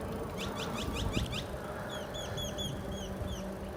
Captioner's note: birds chirping